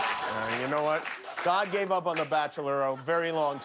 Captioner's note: laughter